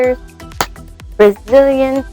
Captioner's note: smack